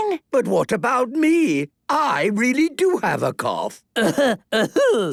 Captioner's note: coughing